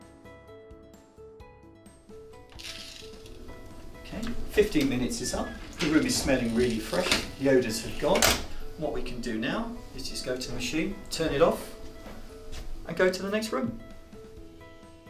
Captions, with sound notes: *Door opens off screen* fifteen minutes is up the room is smelling really fresh The odours have gone so what we can do now you just go to the machine, turn it off and go to the next room